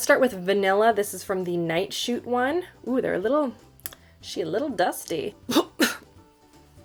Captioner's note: coughs